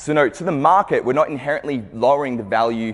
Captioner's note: none